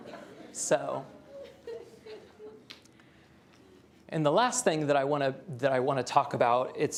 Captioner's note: laughter